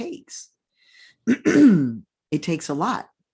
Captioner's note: clears throat